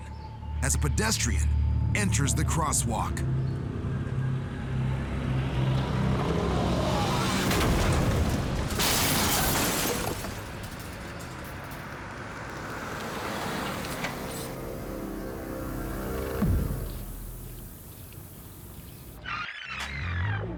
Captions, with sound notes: a s a pedestrian enters the crosswalk. [loud bump] [loud crash] [vehicle approaching] [dramatic music] [rewind squeaking]